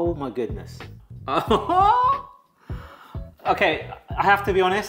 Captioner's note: laughs